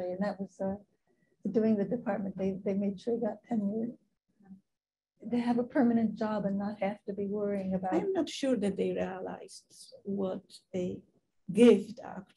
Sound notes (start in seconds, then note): 7.9 woman's Voice